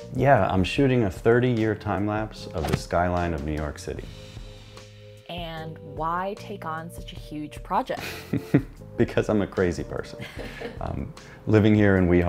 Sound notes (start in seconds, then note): 10.2 laughs